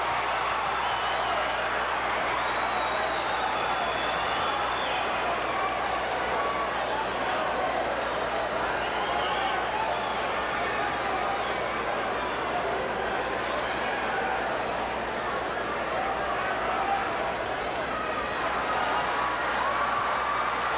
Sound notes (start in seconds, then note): 0.1 audience cheering and clapping; 16.5 audience chattering